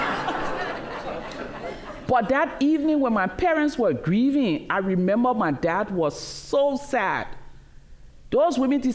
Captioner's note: laughter